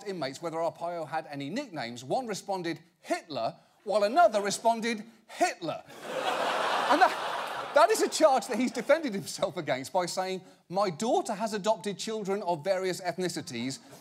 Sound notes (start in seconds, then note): 5.9 audience laughing